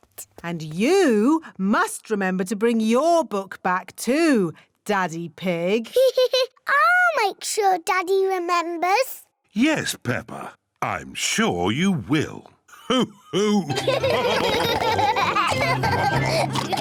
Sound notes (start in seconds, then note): 5.9 laughs; 13.2 all laugh